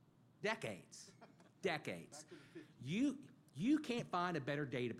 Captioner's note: laughter